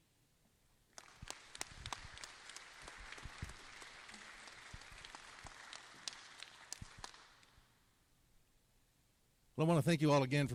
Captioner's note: applause